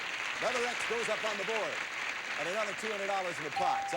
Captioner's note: audience applauding